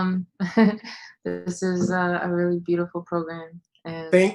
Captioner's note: laughs